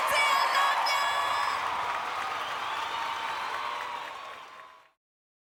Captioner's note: audience applauding